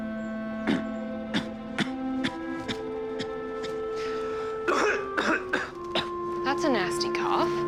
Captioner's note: coughs